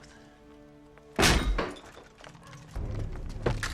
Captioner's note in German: Tür geht auf